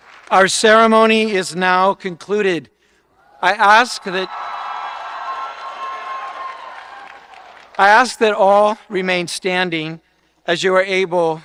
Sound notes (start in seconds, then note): 3.3 audience cheering